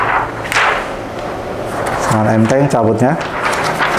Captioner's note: PET film sound